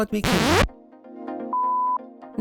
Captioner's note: record scratch